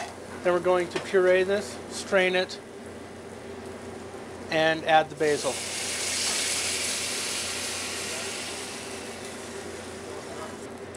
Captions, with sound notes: Then we're going to puree this, strain it, and add the basil. (oil sizzling)